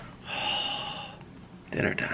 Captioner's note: happy sigh